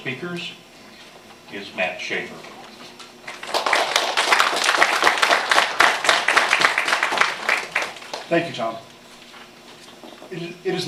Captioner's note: applause